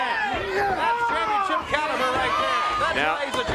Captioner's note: crowd chatter